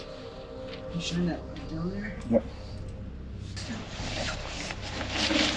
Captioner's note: indistinct conversation